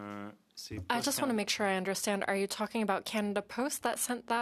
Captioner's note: speaking in French